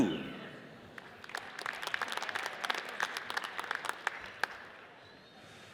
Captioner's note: audience applauds